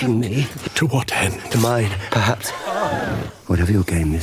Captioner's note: gasp